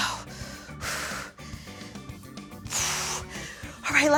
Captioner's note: exhaling